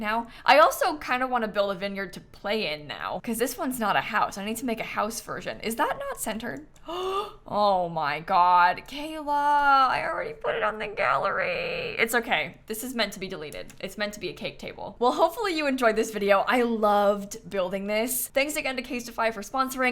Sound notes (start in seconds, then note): 6.8 gasps